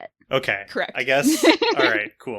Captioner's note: laughs